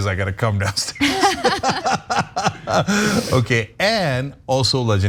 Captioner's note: laugh